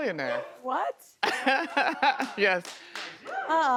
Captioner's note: male chuckles